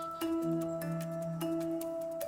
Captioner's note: birds chirping